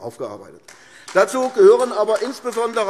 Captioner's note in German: Beifall AfD